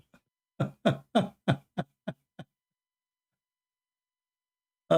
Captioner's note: Ketawa